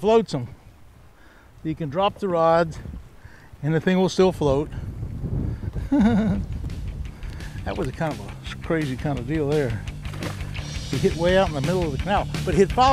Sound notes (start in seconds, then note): 5.7 chuckling; 10.0 fish splashing